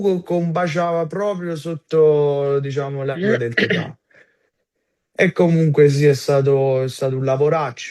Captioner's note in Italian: schiarire la voce